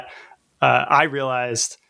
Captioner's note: uh